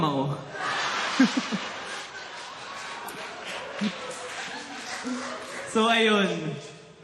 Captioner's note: laughter